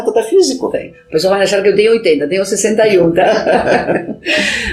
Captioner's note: laughs